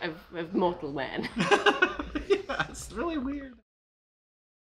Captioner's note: players laughing